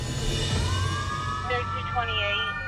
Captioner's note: siren